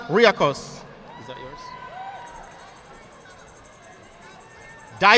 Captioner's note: audience clapping